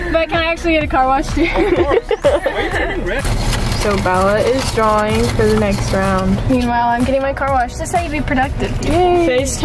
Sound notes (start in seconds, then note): 3.2 papers rustling